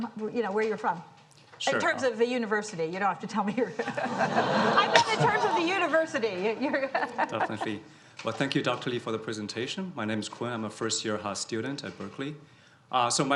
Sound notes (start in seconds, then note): 4.1 and audience chuckles; 6.7 chuckles